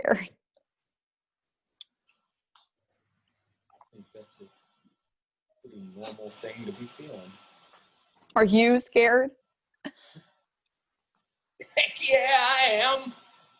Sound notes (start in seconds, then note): 9.8 scoffs